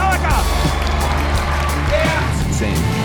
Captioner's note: crowd cheers